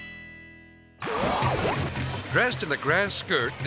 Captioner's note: logo whooshes